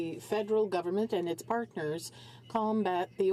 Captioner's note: speaking french